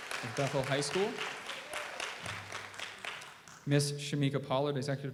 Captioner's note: audience applauds